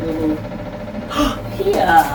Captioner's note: gasp